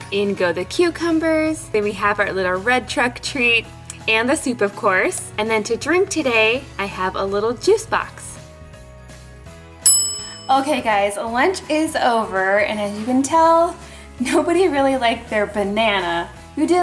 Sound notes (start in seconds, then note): 9.8 bell resounds